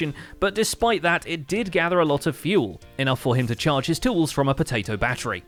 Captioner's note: none